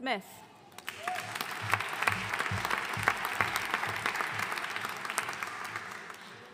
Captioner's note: audience cheering and applauding